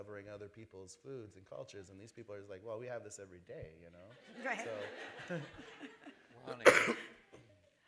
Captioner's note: laughter